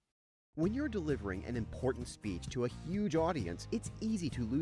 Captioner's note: voiceover